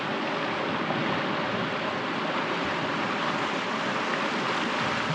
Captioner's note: water rushing